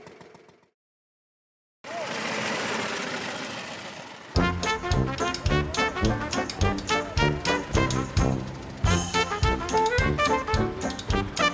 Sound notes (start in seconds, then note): 2.4 car engines rumbling; 2.4 upbeat music